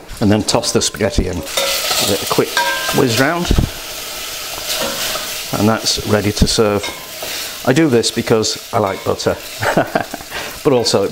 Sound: laughs

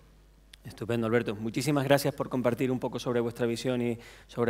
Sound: speaking spanish

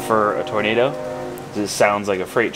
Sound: train whistle blowing

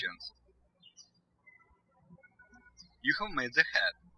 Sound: birds chirping

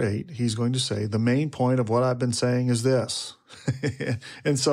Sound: laughs

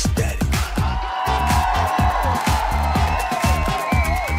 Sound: crowd cheering

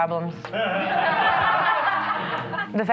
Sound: audience laughing

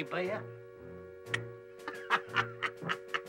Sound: Ishikawa clicks tongue; Pop laughs

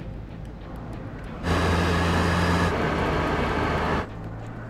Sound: car sounds

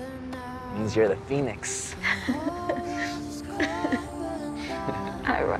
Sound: laughs

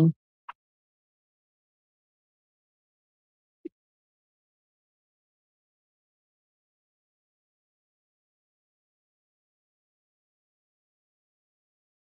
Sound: silence

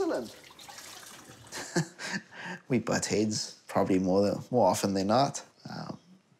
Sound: chuckles

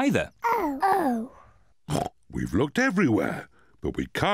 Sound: oinks

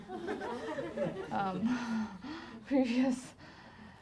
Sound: laughing

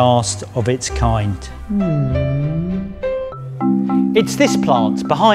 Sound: sad moan

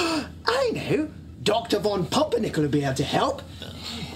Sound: gasps

